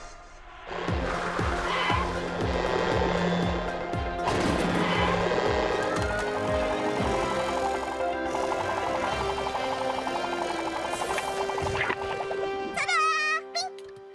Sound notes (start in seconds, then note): 0.7 tires screeching; 6.4 propellors whirring